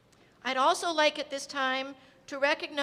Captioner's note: none